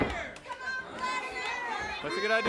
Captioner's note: audience hollers